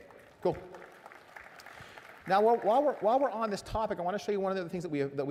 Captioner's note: applause